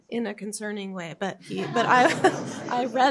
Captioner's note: laughter